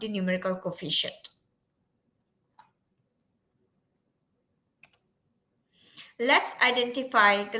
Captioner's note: silence